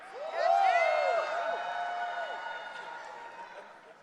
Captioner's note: audience cheering